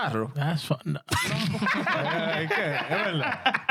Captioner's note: laughing